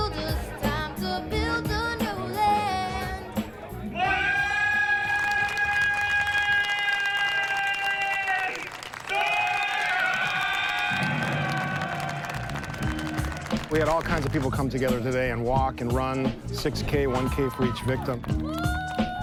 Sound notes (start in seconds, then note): 11.3 cheers and applause